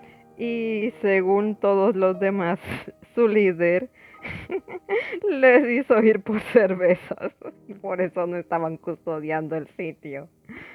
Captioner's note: laughs